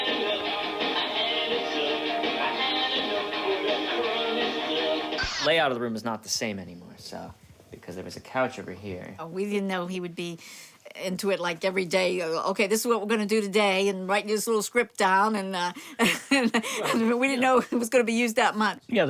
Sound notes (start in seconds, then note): 15.9 laughing